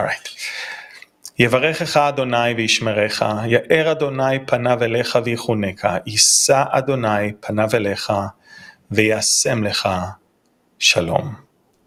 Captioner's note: Aaronic blessing in Hebrew